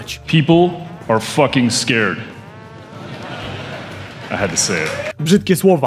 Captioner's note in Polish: śmiechy publiczności